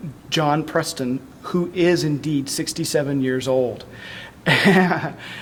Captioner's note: laughter